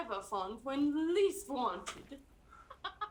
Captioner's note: laughs